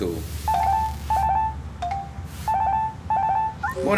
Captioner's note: sound of phone ringing